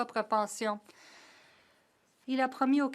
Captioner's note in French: voix de l'interprète